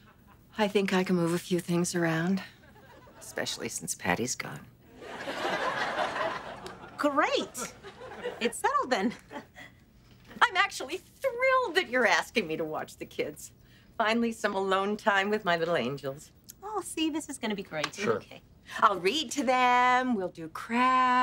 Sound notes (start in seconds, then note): 9.0 chuckles